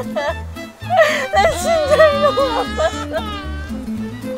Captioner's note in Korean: 엉엉